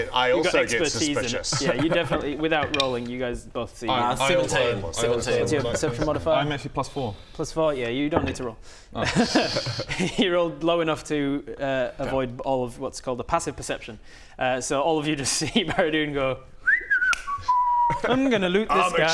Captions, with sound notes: - You got expertise in it - I also get suspicious yeah you definitely without rolling you guys both see 17 - I also would like to - What's your perception modifier? - 12 + 5 = 17 I'm actually +4 + 4 yeah you don't need to roll oh he rolled low enough to uh avoid all of what's called the passive perception so all of you just see Baradun go *innocent whistling* I'm gonna loot this guy